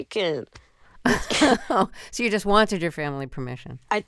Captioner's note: laughter